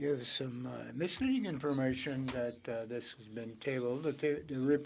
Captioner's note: speaking French